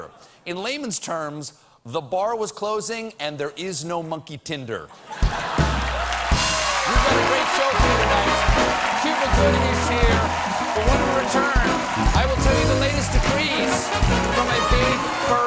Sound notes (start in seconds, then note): 8.3 cheers and applause